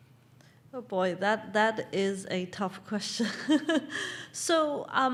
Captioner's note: laugh